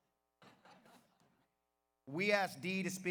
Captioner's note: audience laughs